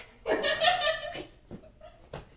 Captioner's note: poor people laughter